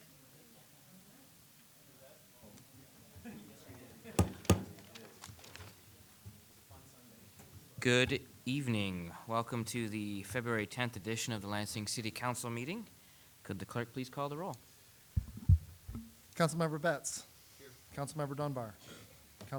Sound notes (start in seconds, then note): 0.2 crowd murmuring; 4.2 gavel banging